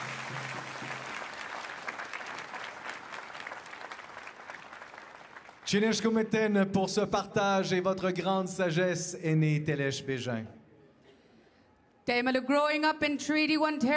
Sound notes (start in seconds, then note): 2.1 applause; 11.6 speaking French